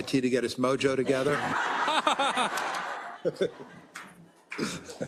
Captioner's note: laugh